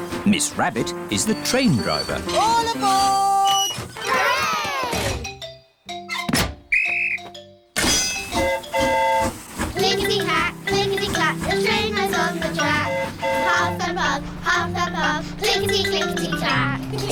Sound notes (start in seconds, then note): 6.7 blows whistle; 6.7 train horn toots; 17.0 all giggle